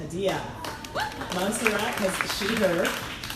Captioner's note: crowd applauding